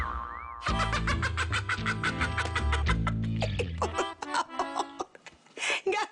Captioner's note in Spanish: Carcajadas